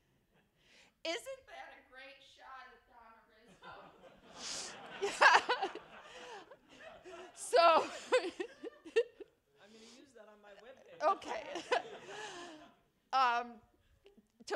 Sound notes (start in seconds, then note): 3.4 laughter begins; 11.0 laughter continues